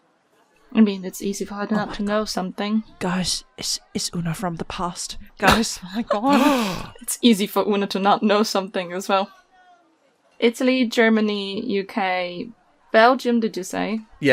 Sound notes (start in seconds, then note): 3.1 whispering; 6.0 gasps